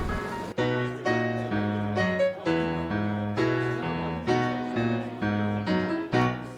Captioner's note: jaunty piano music; patrons chatter